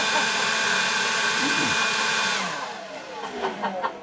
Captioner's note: laughs!